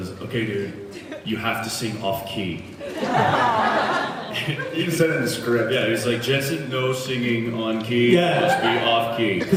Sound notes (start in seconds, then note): 2.9 laughs